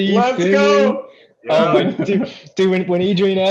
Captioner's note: laughter